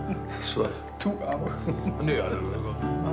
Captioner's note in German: lacht